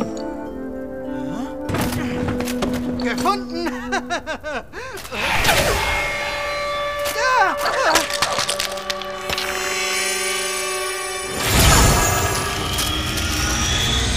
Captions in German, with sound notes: Hä? (lacht:) Gefunden! (Bedrohliche Musik) (Er schreit auf.) (Zauberhafte Klänge)